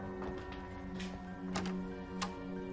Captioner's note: door handle clicking